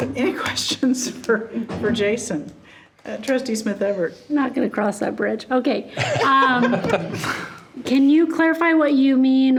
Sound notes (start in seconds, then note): 6.0 laughing